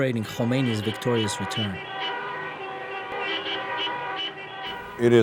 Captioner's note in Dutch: toeterende auto's